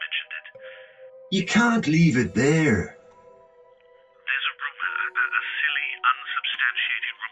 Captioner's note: on phone; on phone